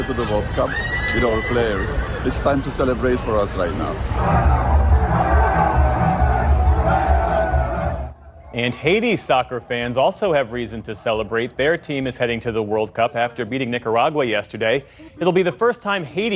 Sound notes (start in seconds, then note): 4.0 cheering